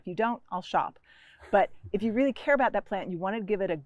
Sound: chuckles

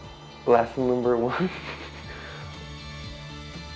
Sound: laughs

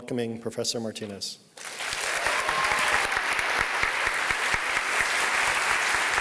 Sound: applause

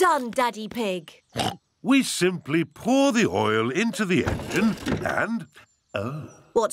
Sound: oinks

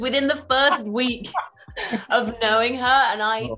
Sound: David laughing

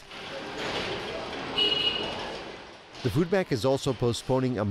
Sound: machines echoing

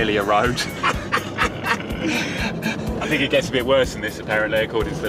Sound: laughing loudly

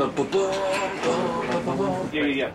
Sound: man humming

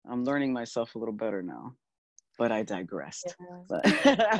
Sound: laughing

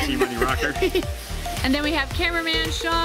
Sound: laughs

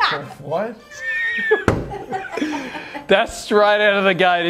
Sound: laughter

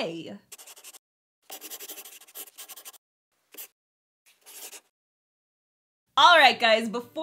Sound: the sound of a pen scratching

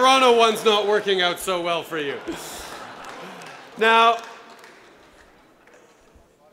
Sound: laughter

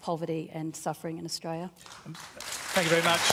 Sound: applause

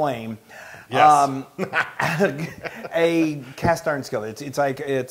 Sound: laugh

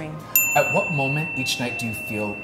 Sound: bell dinging

